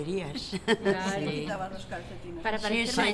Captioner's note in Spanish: risas